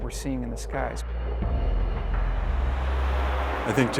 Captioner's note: jets soaring